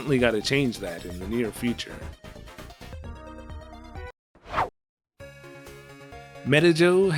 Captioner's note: whoosh